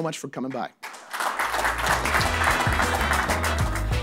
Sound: applause; jazz music

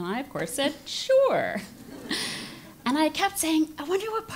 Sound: laugh

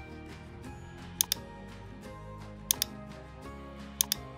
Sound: mouse clicking

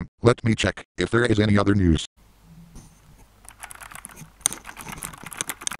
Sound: keyboard Sounds

